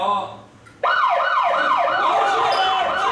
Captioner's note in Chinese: 警報聲